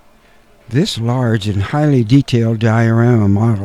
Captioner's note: laughs